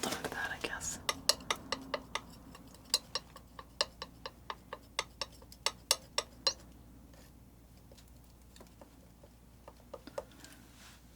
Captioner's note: tapping